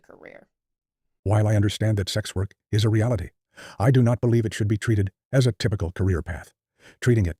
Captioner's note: man's voice narrating thinking